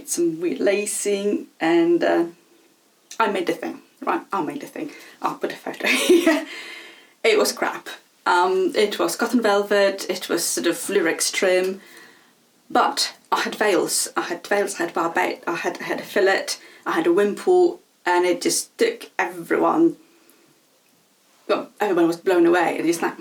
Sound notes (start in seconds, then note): 5.9 laughs